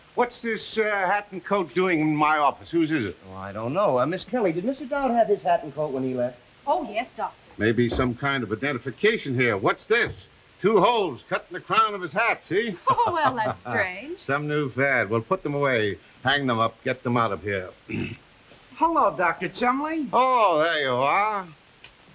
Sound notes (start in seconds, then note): 12.7 Ms. Kelly laughing